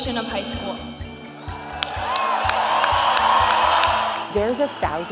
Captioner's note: cheer